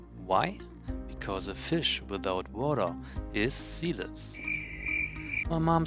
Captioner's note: zirpe